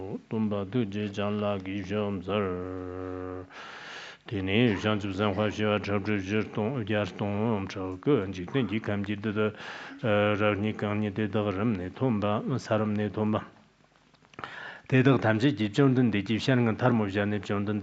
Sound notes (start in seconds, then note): 3.7 giving oral transmission in Tibetan